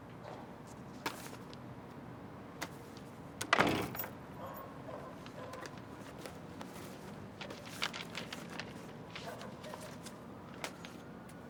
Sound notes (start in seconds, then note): 3.5 door slams; 3.9 dog barks in distance